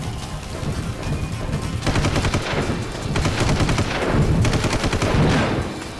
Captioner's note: gunshot